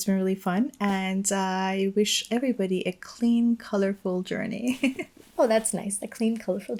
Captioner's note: chuckles